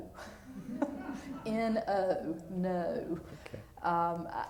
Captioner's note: laughter